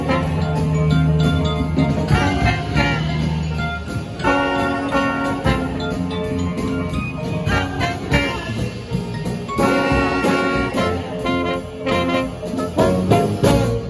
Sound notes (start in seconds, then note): 0.2 pianist riffs cooly; 3.2 pianist riffs cooly; 7.4 horns blast